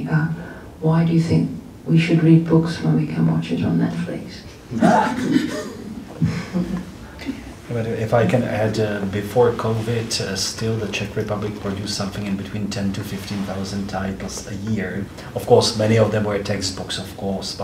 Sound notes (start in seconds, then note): 4.7 laughter